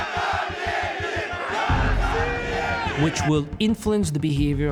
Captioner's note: chanting in Russian